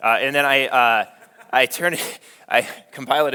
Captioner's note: laughing